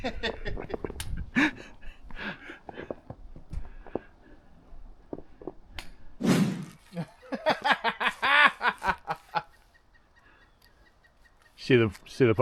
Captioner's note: laughing loudly